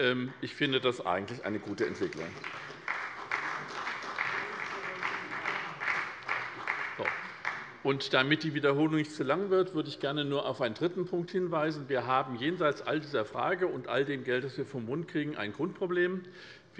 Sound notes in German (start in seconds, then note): 1.6 Beifall bei der SPD